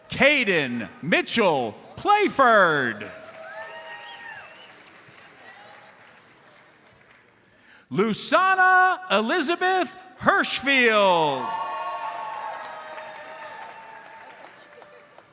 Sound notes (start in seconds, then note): 3.1 audience applauds; 3.8 audience member whistles; 11.2 audience cheers and applauds